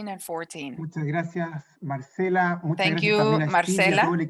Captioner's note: speaking in a foreign language